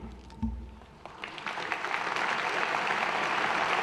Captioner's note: applause